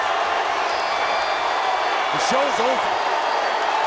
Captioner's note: crowd roars